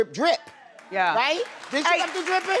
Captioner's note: crowd claps